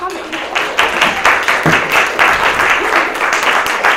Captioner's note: audience claps